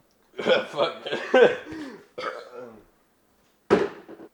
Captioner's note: the rest of the burp; distant destruction